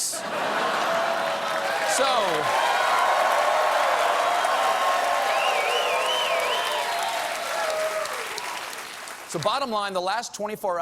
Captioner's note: cheers and applause